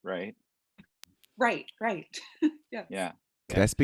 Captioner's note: chuckles